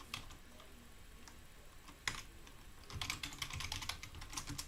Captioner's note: keyboard clicking